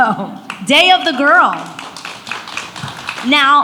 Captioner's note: audience applauds